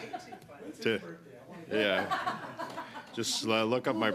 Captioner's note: laughter